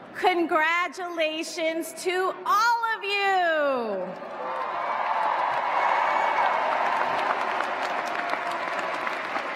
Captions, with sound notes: Congratulations to all of you! [CHEERS, APPLAUSE]